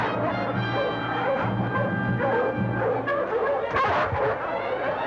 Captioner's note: dogs barking